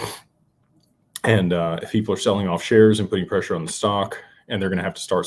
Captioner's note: snorts